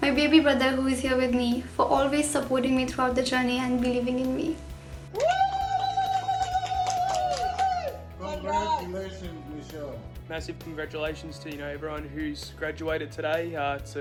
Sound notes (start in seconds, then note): 5.1 women and man applauding